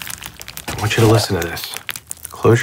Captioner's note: cereal crackling